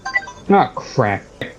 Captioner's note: phone alarm rings